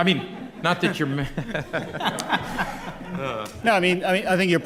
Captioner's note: laughter